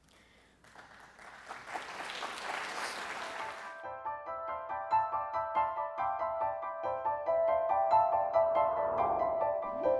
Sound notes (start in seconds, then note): 0.6 audience applause; 3.6 ethereal piano music